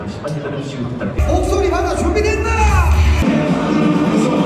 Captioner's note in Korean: 환호와 함께 행사 시작